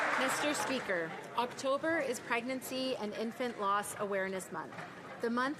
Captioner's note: some Applause